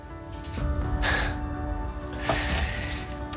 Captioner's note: quiet laughter